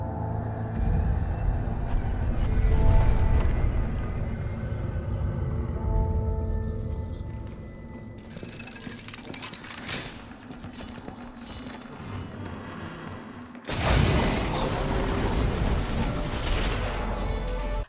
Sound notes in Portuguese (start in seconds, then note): 8.2 Barulho de engrenagens